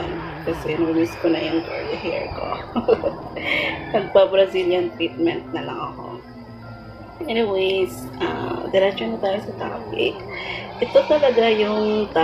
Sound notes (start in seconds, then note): 2.2 laugh